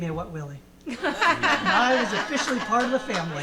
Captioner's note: audience laughing; audience clapping